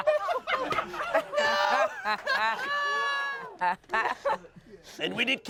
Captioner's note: laughs